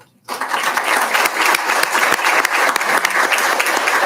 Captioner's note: applauding